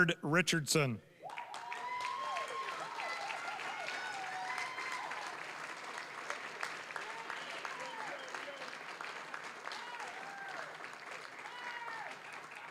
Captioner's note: applause, cheering